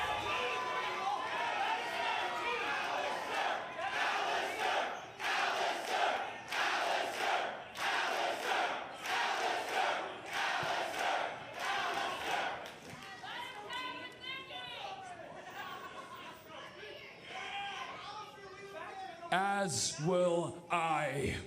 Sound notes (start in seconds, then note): 0.3 crowd cheering; 5.9 crowd chatter